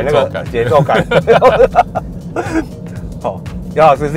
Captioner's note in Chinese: 哈哈哈哈